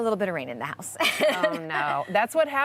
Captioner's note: laughs